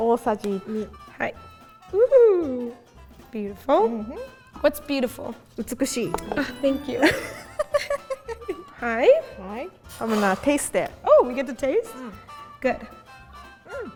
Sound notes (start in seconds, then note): 0.0 speaking in Japanese; 5.6 speaking in Japanese; 9.0 speaking in Japanese